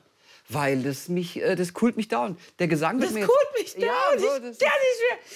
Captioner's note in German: lacht